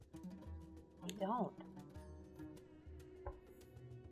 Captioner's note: none